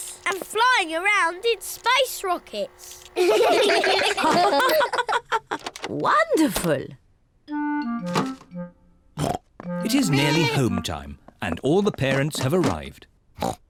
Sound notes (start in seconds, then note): 3.2 all laugh